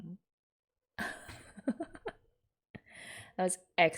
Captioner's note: laughs